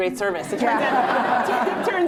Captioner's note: laughter